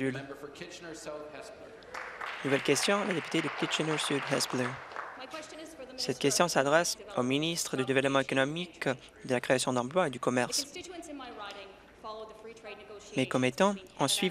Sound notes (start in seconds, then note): 6.3 applause